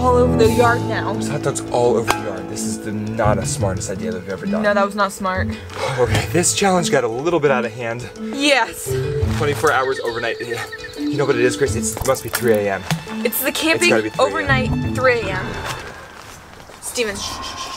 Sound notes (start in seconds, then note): 15.4 growling